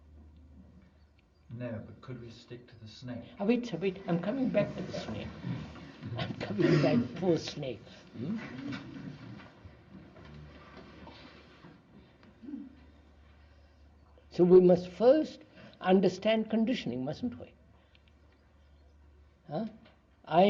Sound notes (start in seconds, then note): 8.2 laughs